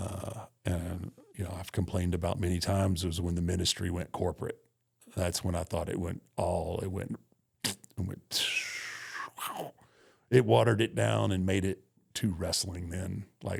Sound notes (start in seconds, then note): 8.6 descending whistle